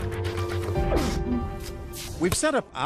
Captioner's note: gulps and chokes